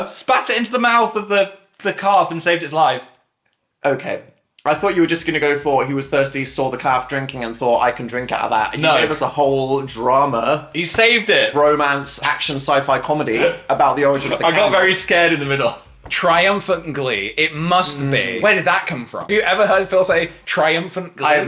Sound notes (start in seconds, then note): 14.0 laughs